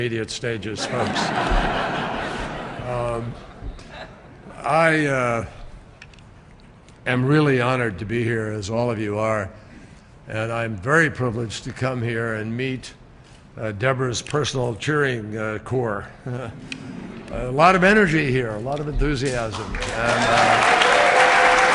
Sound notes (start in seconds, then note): 3.7 laughter; 16.1 laughter